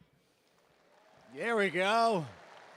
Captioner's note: audience applauding and cheering